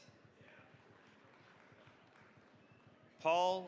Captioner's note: applause